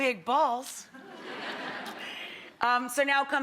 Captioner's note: crowd laughing